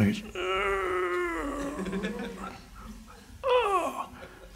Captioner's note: straining